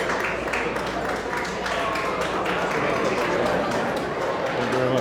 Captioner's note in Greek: κοινό χειροκροτεί